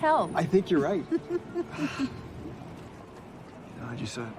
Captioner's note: laughing